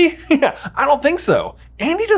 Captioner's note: laughs